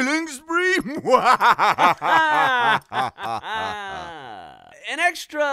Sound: Faang and monkey laughing

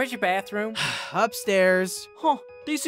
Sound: twilight sighs

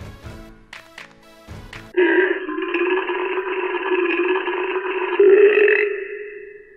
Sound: burp sound

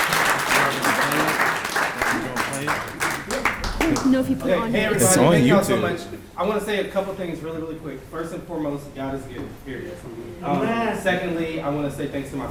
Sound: applause

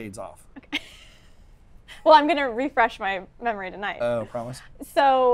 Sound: laughs

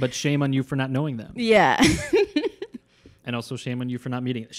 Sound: laughing

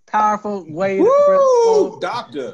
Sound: exclaims excitedly

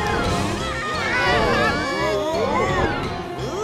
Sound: screaming

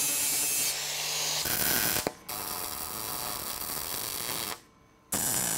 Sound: welding electrode sparking

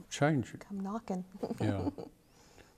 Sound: laughs

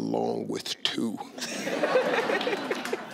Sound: audience laughing

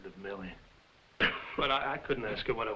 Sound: Jakob coughing

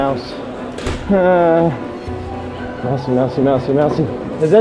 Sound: groans

